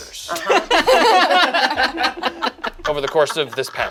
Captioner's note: group laughs